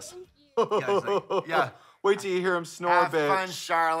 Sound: hoots

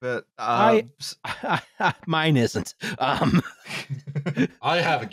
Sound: laughs

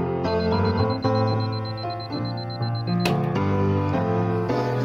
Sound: alarm clock beeps

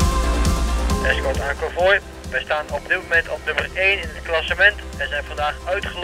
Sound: radio

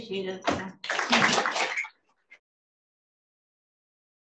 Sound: attendees applaud

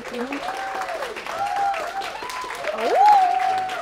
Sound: applause

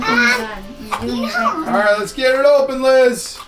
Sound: mumbles

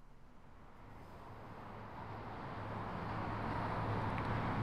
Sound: traffic humming

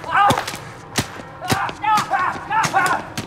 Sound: both shouting

